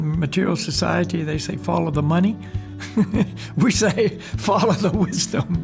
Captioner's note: laughs